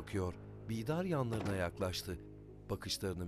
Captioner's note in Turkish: Kapı kapanma sesi